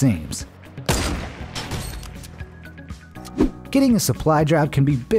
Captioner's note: gun shooting